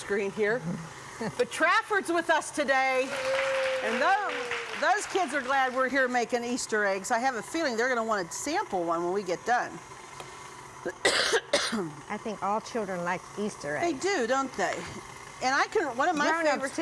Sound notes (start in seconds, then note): 3.0 clapping; 8.9 coughing